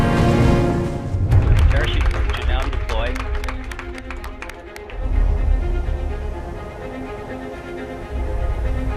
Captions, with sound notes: (parachute deploys) (applause) The parachute is now deployed.